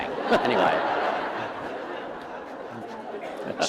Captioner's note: laughter